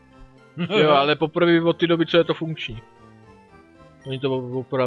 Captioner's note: laughs